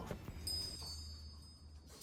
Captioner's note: chime sound